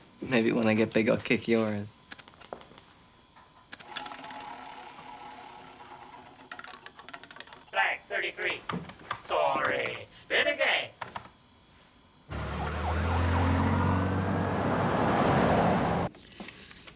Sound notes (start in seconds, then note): 5.8 computer game rattles; 12.3 sirens wailing; 14.2 cars roaring